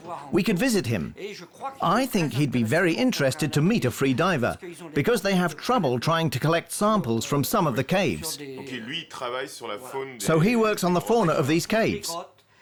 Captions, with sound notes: We could visit him. I think he'd be very interested to meet a free diver because they have trouble trying to collect samples from some of the caves. [speaking French] So he works on the fauna of these caves.